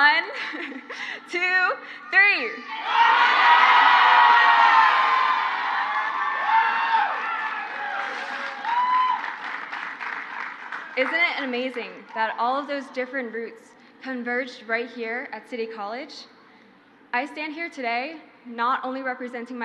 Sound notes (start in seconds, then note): 2.6 crowd shouts; 5.9 crowd cheers